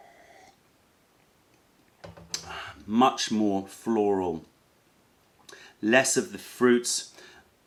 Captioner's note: sips tea